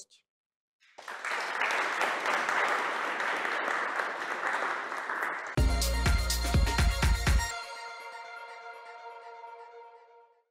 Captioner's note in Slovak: Potlesk